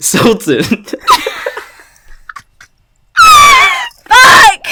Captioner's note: laugh